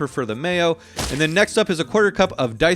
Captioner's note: adobo plops into the bowl